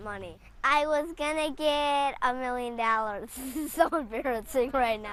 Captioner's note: laughs